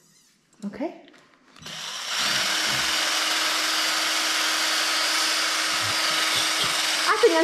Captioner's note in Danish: hvirrende lyde